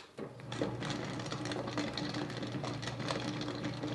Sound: tumbler rumbling

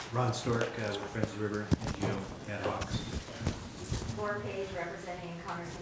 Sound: papers rustling

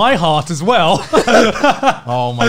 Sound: laughs

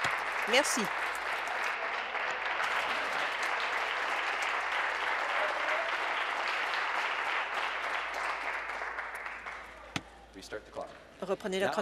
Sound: applause

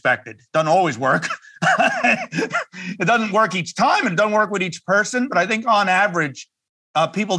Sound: laugh

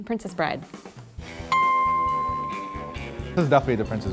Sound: dings

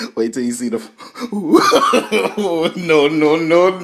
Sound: laughter

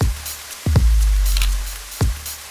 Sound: camera click

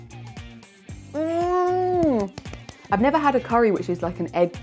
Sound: claps

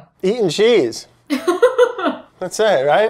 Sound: Elizabeth laughs

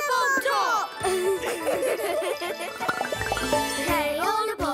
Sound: laughter

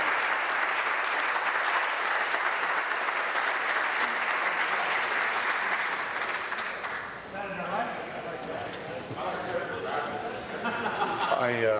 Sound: applause

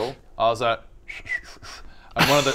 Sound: "special" whistle; laughs

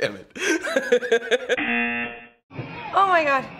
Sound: laughing; buzzer

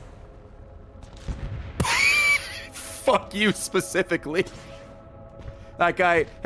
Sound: laughs

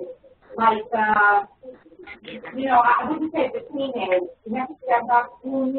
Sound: woman talks off microphone

